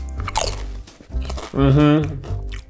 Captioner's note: crunching